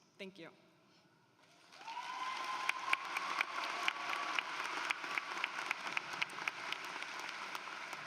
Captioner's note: applause